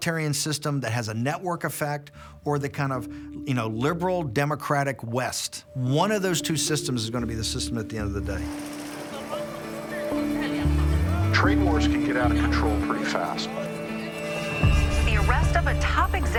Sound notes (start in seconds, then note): 9.7 man speaking Chinese